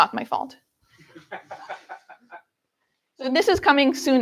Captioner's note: laughter